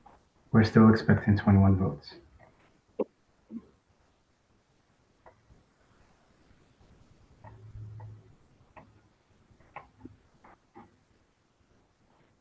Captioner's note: pause